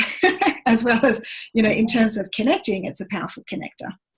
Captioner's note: laughs